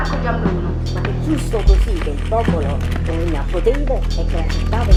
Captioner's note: noise and flash of the cameras